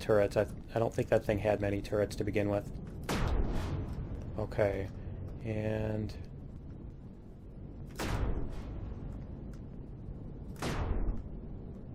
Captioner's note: explosion